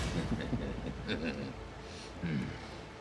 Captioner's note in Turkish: Gülme sesleri